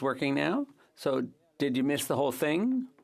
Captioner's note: speaking French